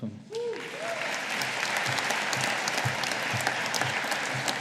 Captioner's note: audience applauding